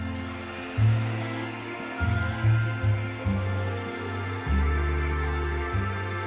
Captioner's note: bright music; hair dryer whirring